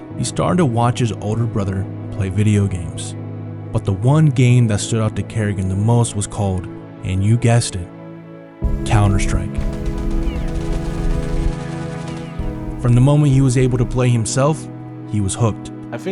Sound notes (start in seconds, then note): 8.6 gunshots firing; 10.0 reflective music continues